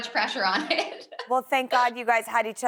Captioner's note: chuckles